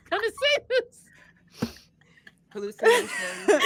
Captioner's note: all laughing